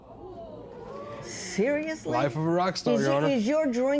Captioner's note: spectators murmur